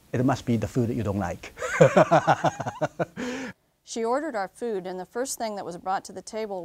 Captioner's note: laughs